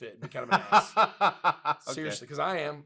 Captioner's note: laughs